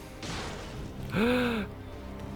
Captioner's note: gasps